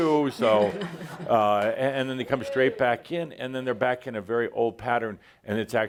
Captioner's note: laughter